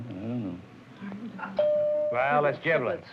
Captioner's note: bell dings